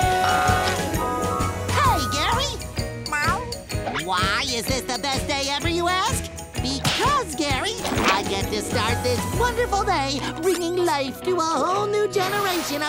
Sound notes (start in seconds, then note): 3.0 meowing